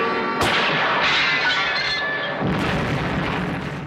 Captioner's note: gunshot; glass breaking; explosion